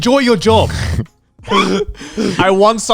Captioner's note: group laughs